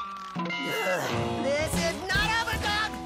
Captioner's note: groans